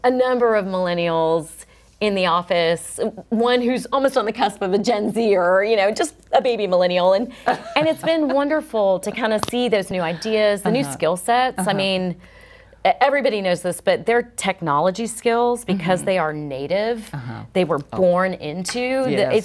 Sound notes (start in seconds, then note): 7.4 chuckles